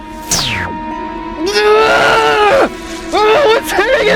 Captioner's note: screaming in agony